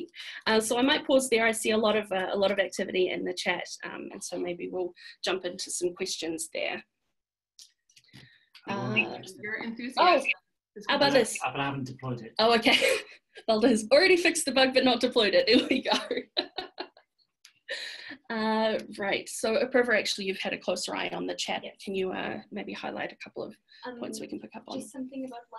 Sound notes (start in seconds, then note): 16.2 laughs